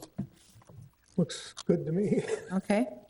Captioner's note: chuckles